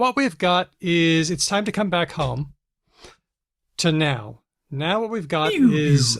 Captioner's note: makes winding down noises